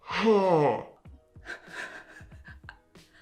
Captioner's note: stammers